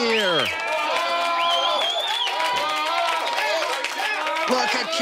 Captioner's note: audience applauding